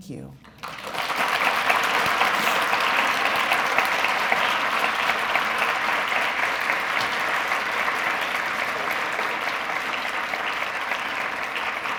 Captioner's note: applause